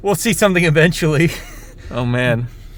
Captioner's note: laughs